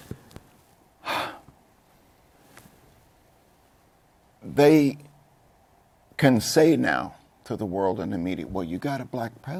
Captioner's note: sighs